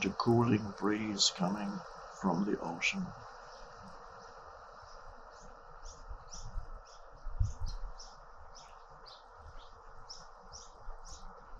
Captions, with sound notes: got a cooling breeze coming from the ocean. (ocean whispering) (birds chirping)